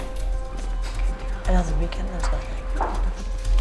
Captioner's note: soft chatter